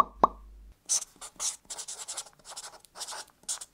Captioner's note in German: Stiftkratzen